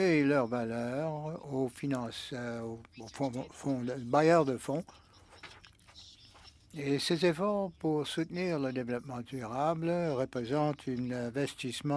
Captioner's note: speaking French